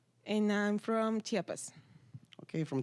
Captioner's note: none